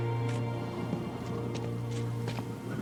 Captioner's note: wind whistling